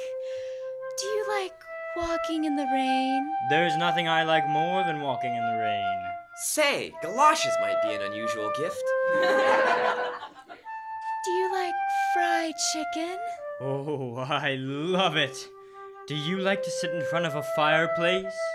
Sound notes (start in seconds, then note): 9.1 laughter